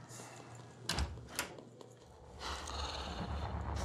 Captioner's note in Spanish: ruido al abrir